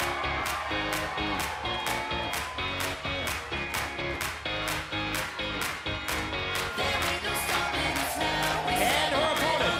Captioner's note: cheers & applause